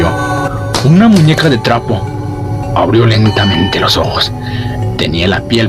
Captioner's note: faint, sinister voice